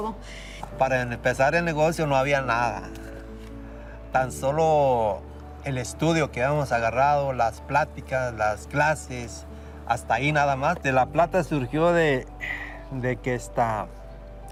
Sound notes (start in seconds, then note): 0.7 speaking in Spanish